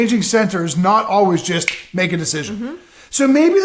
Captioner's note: snaps